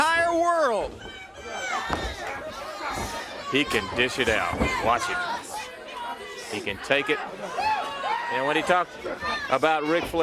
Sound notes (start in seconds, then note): 1.8 crowd chatter